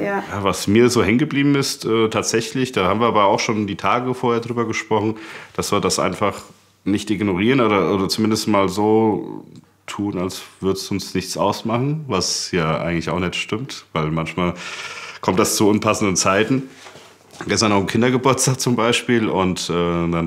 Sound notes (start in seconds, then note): none